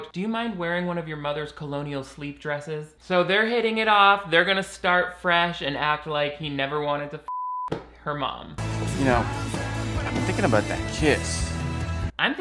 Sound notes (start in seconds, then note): 7.2 beep